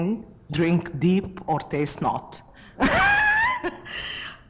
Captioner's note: laughs